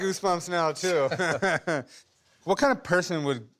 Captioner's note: laughter